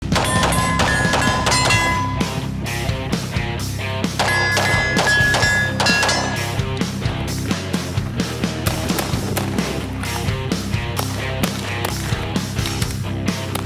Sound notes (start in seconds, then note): 0.1 gun booming; 0.1 metal clanging; 8.4 gun booming; 8.4 upbeat music